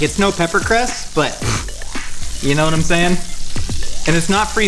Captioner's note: snorts